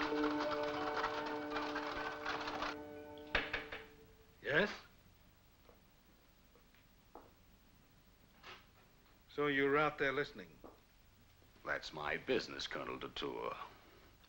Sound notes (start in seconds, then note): 3.3 door knocking